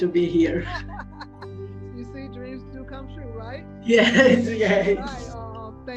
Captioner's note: laughs